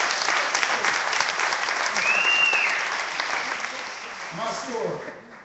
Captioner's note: clapping